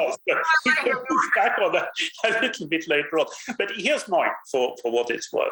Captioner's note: laughs